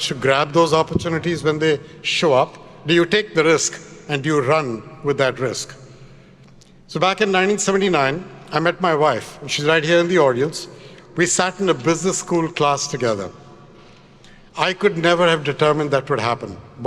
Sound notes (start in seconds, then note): none